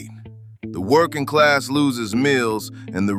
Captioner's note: exasperated